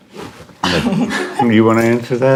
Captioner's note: laughs